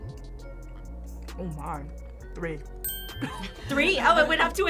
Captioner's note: both laugh